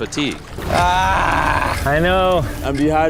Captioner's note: groaning